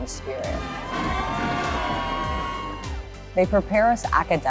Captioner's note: cheering